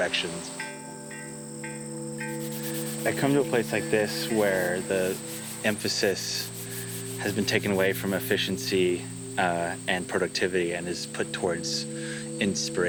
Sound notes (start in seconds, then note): 2.1 chime ringing; 2.6 sanding